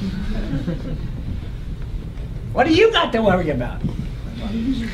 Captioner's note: laugh